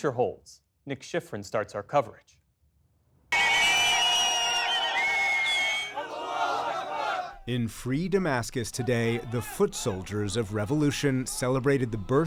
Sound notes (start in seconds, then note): 7.5 chanting; 7.5 cheering